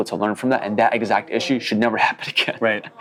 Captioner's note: laughs